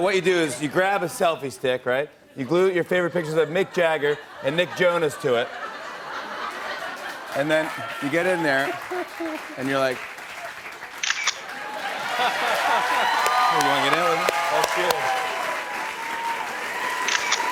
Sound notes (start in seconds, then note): 6.1 laughter; 9.1 applause; 11.0 camera shutter clicks; 11.3 cheers and applause